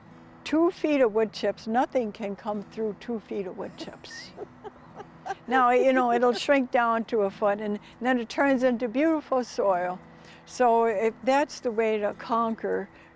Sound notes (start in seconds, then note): 3.6 laughing